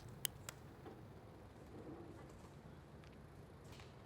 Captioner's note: lid snapping